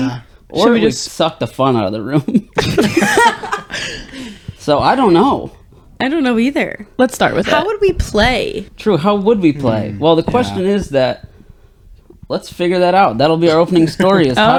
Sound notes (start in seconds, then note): 0.0 laughing; 2.2 laughing